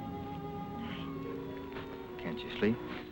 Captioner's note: gentle music; pat